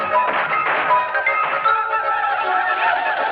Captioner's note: gunfire continues